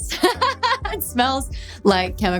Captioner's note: Dove laughing